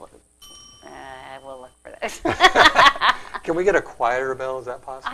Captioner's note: ding; laughing